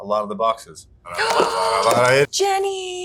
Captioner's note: gasping